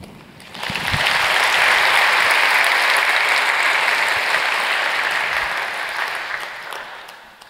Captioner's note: applause